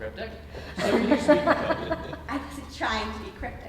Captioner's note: audience laughing